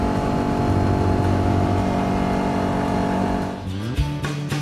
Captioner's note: atv motor